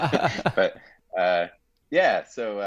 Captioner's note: laughing